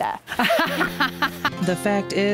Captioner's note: loudly laughs